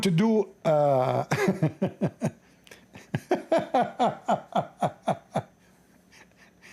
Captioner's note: Ketawa